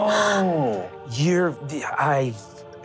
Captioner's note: gasps